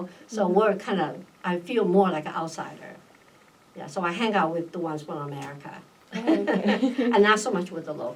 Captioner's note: laughs